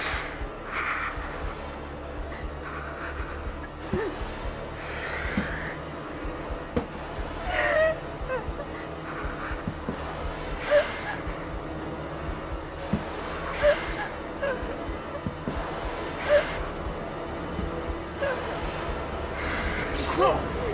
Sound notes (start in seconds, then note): 0.2 clown grunting angrily; 7.4 Tina whimpering; 19.7 knife swishing; 19.9 clown groans